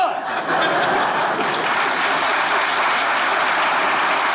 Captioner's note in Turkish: Kahkaha ve alkış sesleri